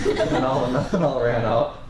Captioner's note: students laugh